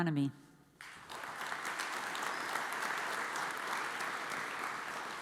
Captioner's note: audience applauds